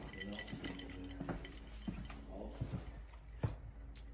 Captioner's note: ice go jingle jangle